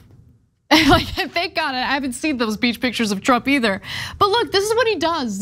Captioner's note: laugh